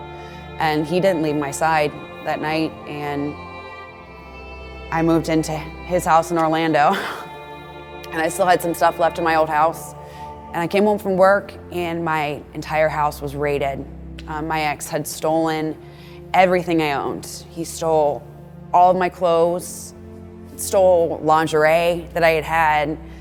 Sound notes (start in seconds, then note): 2.8 dramatic music playing; 6.9 chuckles; 22.9 dramatic music playing